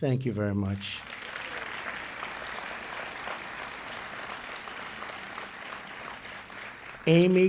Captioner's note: applause